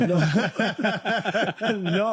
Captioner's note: laughing